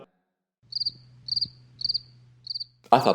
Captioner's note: bird chirping